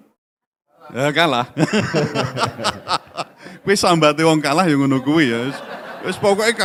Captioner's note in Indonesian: tertawa